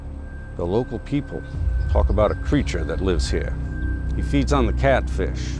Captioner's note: none